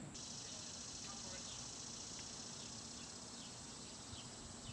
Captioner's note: birds singing